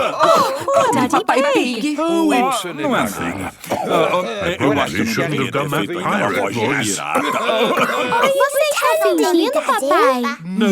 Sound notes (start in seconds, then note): 0.0 cough; 7.6 cough